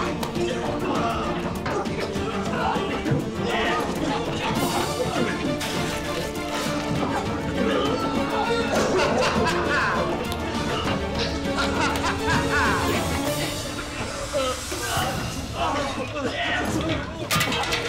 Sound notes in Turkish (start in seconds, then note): 7.6 Gülme sesi; 13.8 Boğulma sesleri